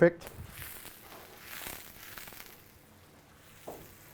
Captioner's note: sizzling